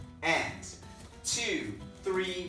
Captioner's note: slapping sounds